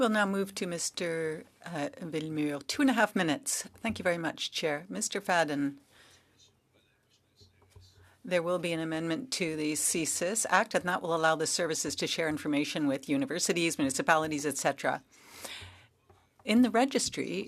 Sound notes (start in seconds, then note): 4.4 speaking French